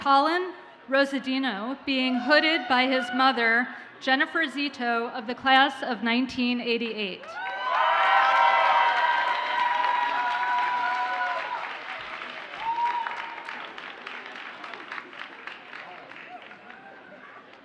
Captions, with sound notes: Collin Hunt Rosadino being hooded by his mother, Jennifer Zito of the class of 1988. (audience cheers and applauds)